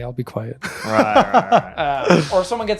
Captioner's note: laughing